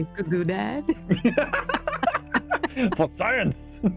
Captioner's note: laughter